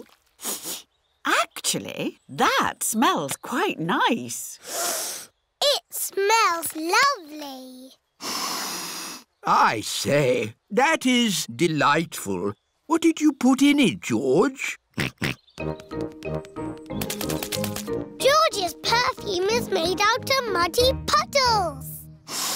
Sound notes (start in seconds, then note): 0.4 sniffs; 4.8 sniffs; 15.2 snorts; 22.2 all sniff